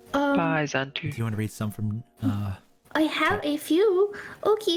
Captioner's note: none